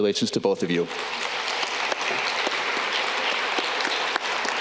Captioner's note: audience clapping